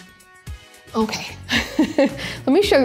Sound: laughing

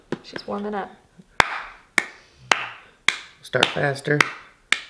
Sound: hands clapping

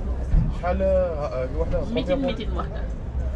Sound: in Arabic

